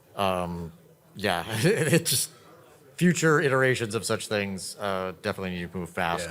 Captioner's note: laughing